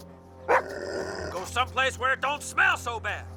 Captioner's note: Buck barks; growls